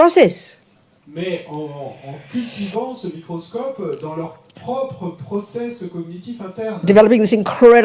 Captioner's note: audience member speaks in French